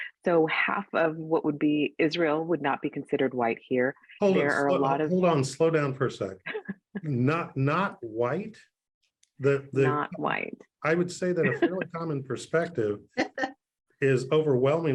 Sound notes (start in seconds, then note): 4.3 chuckles